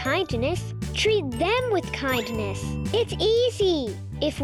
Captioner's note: bell dinging